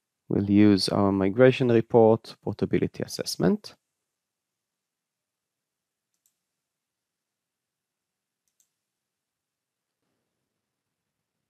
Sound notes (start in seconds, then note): 6.4 mouse clicking